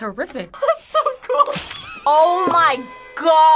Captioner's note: laughs